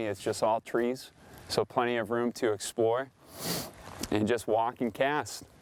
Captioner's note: sniffs